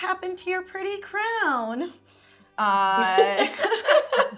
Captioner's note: laughing